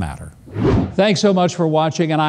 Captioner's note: air whooshing